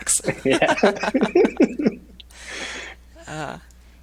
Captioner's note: laughing